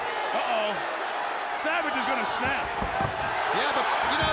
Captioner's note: applause